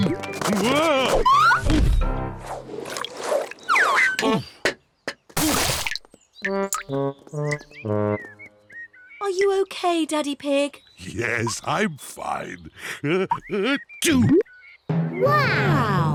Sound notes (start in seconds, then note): 13.0 sneezes